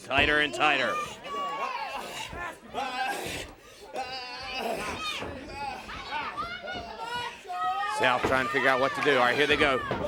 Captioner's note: crowd chatter